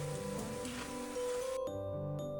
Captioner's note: crunchy